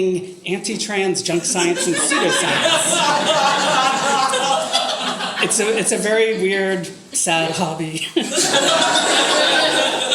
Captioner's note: audience laughter